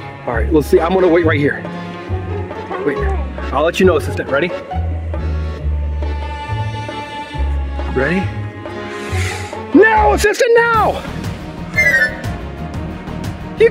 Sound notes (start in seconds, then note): 5.1 suspenseful music; 8.8 breathing in; 10.6 yelling; 11.0 marching music